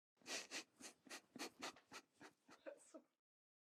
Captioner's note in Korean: 웃음